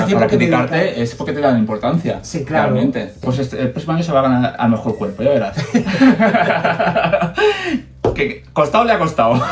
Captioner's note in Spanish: risas